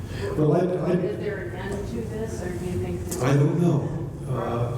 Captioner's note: voiceover